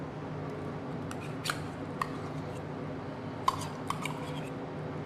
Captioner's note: utensil scraping